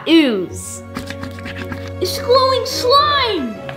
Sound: scratching

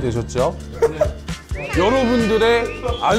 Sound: holding laughter

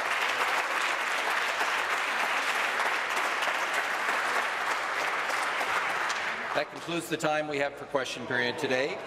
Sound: applause

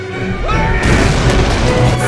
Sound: screams

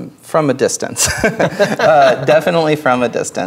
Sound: players laughing

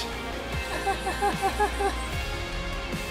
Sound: maniacal laughter

